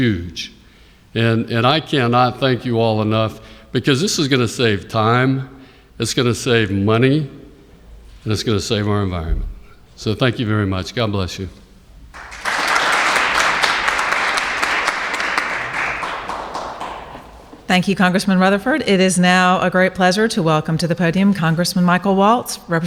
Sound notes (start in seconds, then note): 12.1 applauses